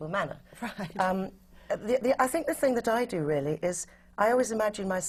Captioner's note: laughs